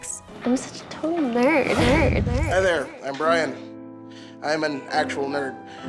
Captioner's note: "nerd" echoes